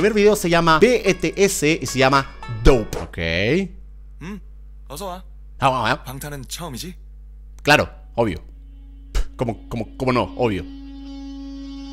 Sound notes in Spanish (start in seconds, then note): 10.3 Sarcasmo